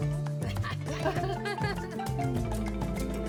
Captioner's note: laughter